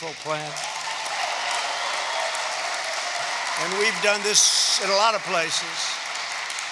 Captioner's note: applause